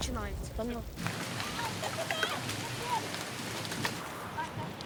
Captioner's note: heavy rain